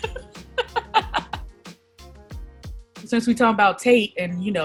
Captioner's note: laughs